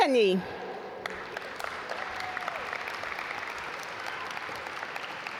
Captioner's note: audience applaud